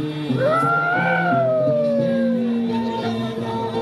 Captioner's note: exclaiming